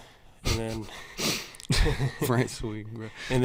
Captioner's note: snickers